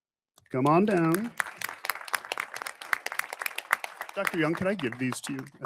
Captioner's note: audience applauding